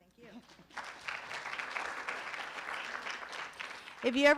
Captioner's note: room applauds